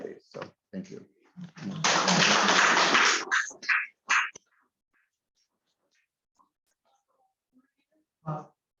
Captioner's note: applause